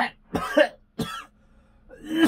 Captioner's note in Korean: 쿨럭